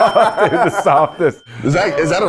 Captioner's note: both laughing